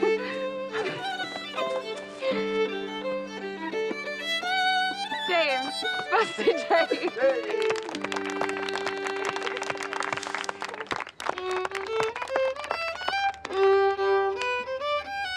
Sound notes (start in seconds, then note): 6.5 clapping; 8.3 laughs